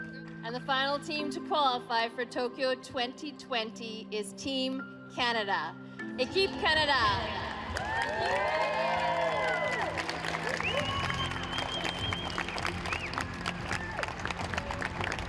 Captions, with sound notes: And the final team to qualify for Tokyo 2020 is Team Canada. [speaking french] [applause]